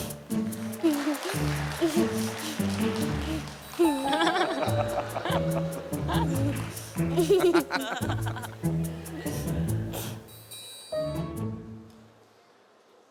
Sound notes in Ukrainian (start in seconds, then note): 2.5 сміх